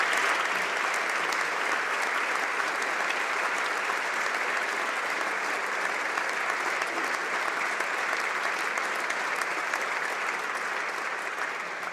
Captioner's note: applause